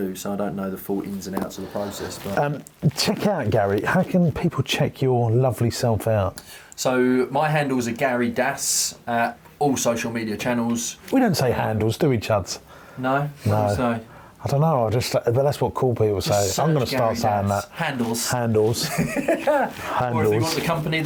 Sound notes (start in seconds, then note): 18.8 laughs